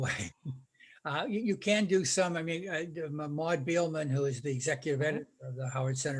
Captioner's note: laughing